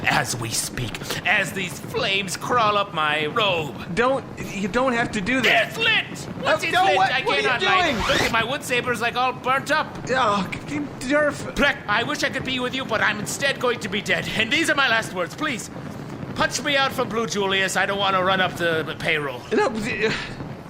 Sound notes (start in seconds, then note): 5.9 yelling; 11.0 dismayed noise